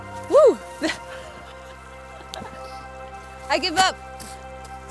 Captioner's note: laughing